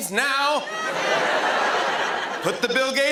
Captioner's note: laughter